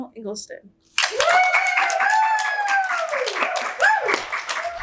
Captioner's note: audience cheers